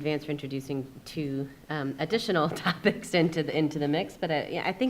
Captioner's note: chuckles